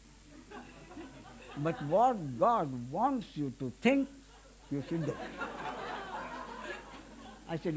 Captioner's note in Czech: smích